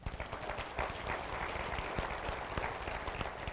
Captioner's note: applause